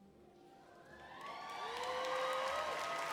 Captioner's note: applause